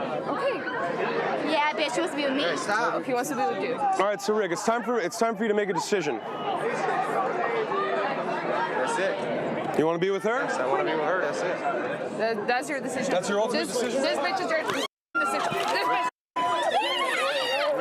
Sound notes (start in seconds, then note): 6.6 crowd chattering; 14.9 girl squealing